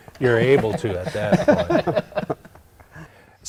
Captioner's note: laughter